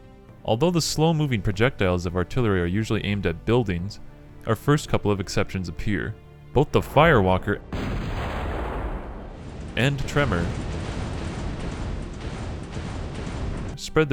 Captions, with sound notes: Although the slow-moving projectiles of Artillery are usually aimed at buildings... our first couple of exceptions appear. Both the Firewalker... [Firewalkers Firing] And the Tremor... [Tremor-san Firing Noises <3]